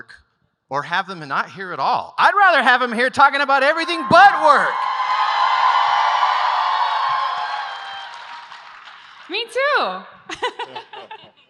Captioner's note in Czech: Potlesk